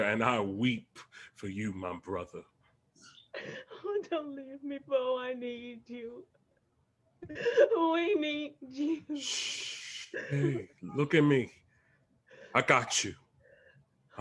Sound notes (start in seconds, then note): 9.5 Bobo shushes